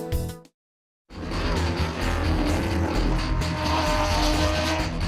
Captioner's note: engines revving